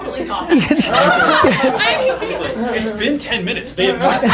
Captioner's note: group laughter